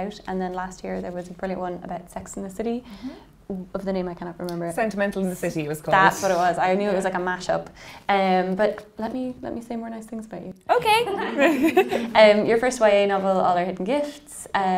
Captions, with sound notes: And then last year there was a brilliant one about Sex in the City of the name I cannot remember. - Sentimental in the City it was called. - That's what it was. I knew it was like a mash up but let me say more nice things about you. - Okay. (laughing) Your first YA novel, All Our Hidden Gifts,